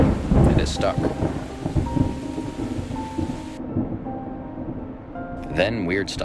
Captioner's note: melancholic music; thunder rumbling